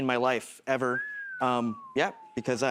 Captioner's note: whistles